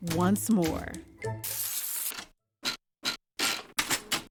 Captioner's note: advancing paper in typewriter